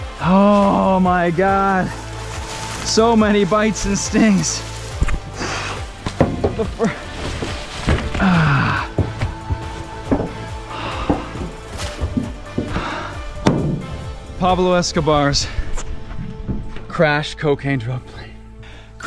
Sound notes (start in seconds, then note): 7.5 grunting